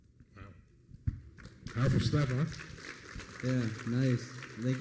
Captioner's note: applause